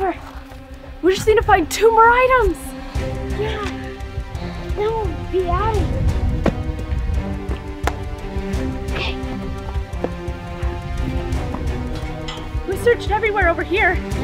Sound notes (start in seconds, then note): 6.1 foot stomping; 7.8 clap